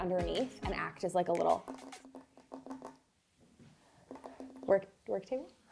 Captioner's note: drumming fingers